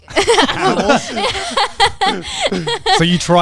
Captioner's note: laughing